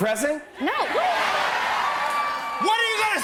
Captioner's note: cheers and applause